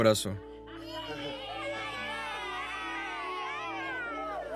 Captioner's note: children exclaiming